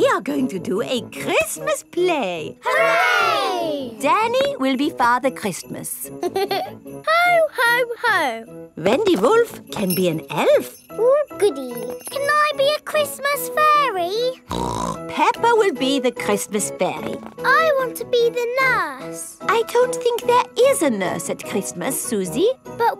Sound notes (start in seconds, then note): 6.2 giggles; 14.5 snorts